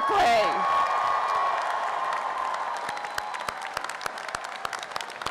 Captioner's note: applause and cheering; upbeat orchestral music and cheering